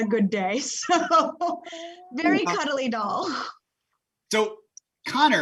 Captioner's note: laughing